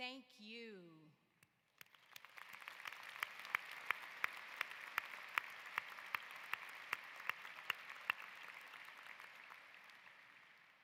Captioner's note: applause